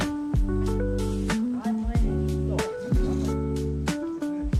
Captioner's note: speaking Romanian